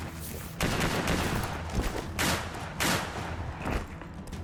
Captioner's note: gunshots banging